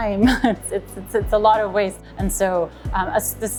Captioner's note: chuckles